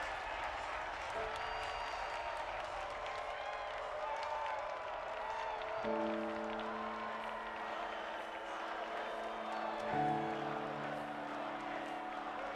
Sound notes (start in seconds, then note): 8.7 crowd